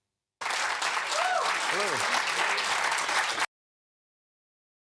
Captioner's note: people applauding